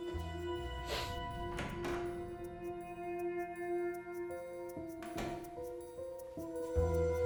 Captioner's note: sniffs; door opens and closes